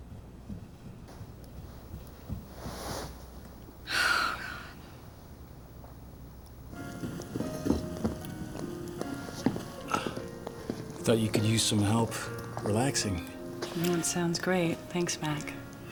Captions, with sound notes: (sighs) - God. (light orchestral music) - I thought you could use some help relaxing. - Sounds great, thanks, Mac.